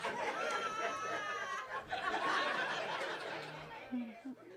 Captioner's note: audience laughing